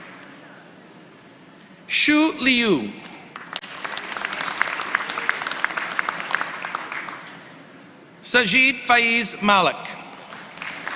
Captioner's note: applause